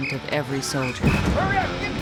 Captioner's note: explosion